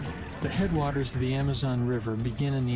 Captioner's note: thunder claps; water flowing